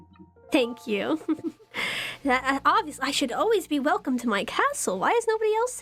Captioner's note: giggles